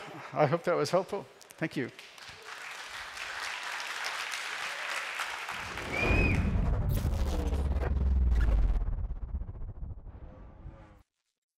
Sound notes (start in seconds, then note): 1.6 applause